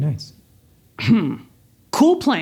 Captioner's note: clears throat